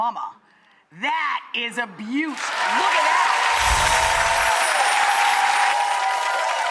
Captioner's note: audience cheering